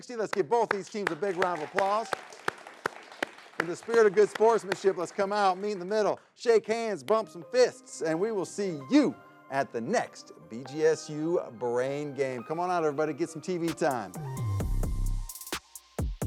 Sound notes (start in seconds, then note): 0.6 audience applauds; 14.7 upbeat Music